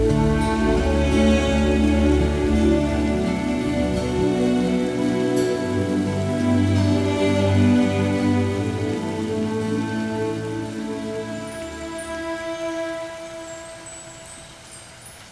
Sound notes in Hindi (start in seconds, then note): none